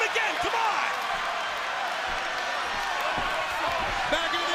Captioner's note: crowd cheering